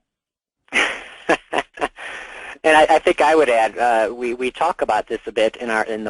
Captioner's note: chuckling